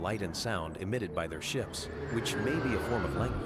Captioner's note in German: Flugzeug fliegt an